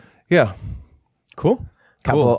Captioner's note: sarcastically